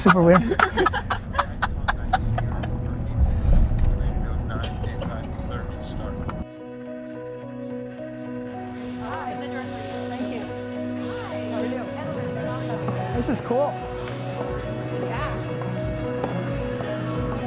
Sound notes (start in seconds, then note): 1.8 laughing; 7.4 mellow music